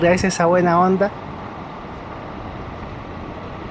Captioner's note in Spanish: sonido del motor del bus